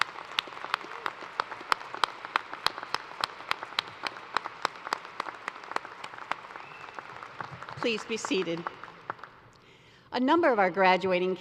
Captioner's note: applause